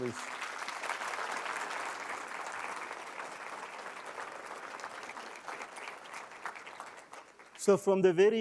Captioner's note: applause